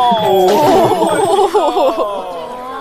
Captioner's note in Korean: 웃음